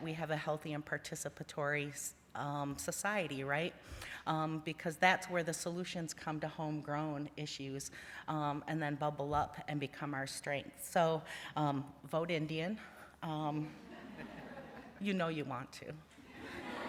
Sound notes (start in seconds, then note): 13.8 laughter